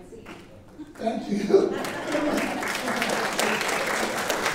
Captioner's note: laughing; applauding